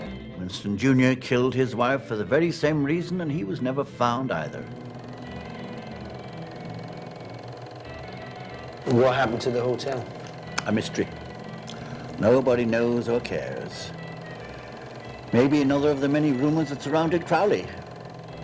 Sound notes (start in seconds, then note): 5.0 film reel clicking